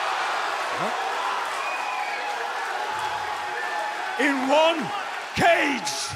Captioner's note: crowd cheering